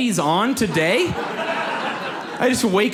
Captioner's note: audience laughs